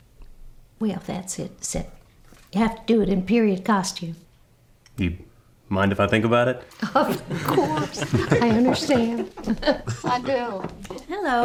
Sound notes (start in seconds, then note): 6.8 everyone giggling